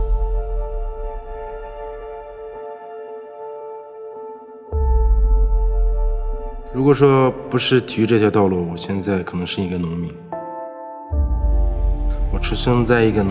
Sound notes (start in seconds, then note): 0.1 tranquil instrumental music; 7.0 Jingliang speaking foreign language